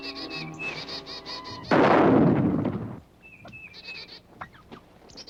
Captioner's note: sound of explosion